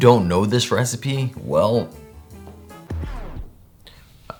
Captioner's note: none